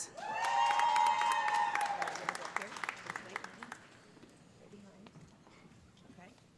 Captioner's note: audience cheering; audience applauding